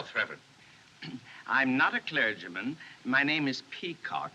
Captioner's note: clears Throat